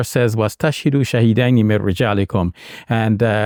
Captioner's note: speaks in Arabic language